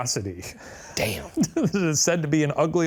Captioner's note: laughing